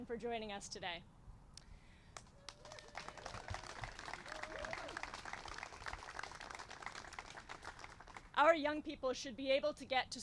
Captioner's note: applause